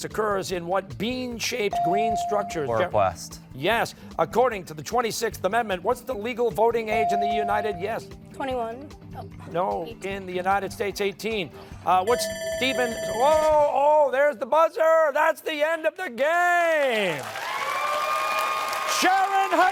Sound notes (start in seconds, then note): 14.0 timer sounding